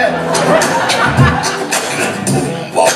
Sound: laughter

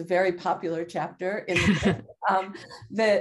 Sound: both laugh

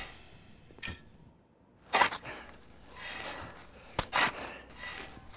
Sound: shovel crunches

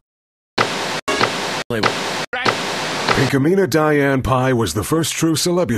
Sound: static

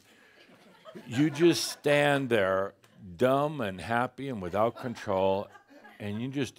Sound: some laughter

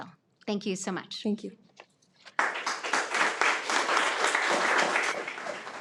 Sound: attendees applaud

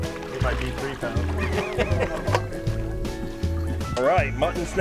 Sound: laughs

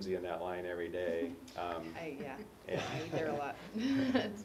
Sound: laugh

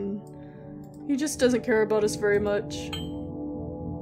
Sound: ding

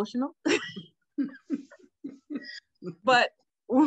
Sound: laughing

